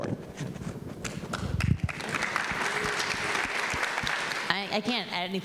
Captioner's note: audience applauding